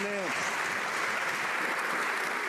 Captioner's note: some Applause